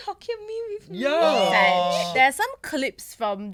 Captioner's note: agree in unison